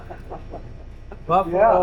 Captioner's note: laughs